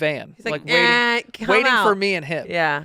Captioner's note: mimics honking